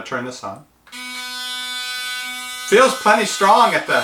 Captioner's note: loud toothbrush motor buzzing